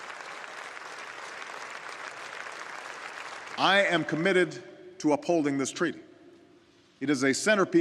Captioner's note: audience applauding